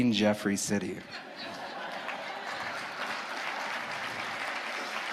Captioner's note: audience applauding